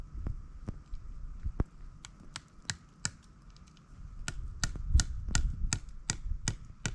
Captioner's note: hammer tapping